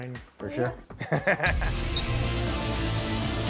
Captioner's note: laughing; intense music